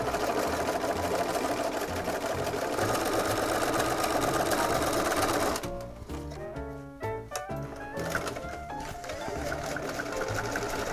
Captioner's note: sewing machine whirring